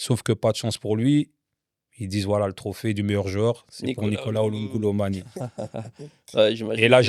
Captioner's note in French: rires